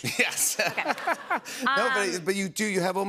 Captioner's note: laughter